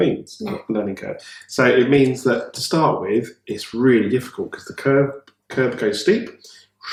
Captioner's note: woosh